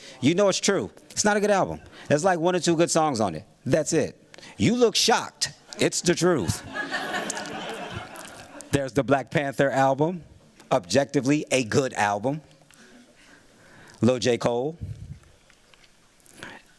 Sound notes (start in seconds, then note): 6.3 laughter